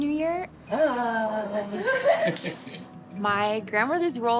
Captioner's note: people laugh